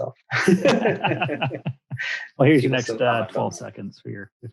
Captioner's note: both laugh